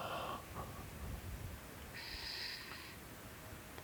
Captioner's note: breathing